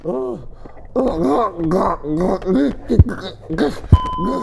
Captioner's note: panting; gurgling